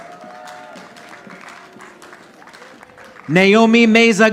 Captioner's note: audience applauding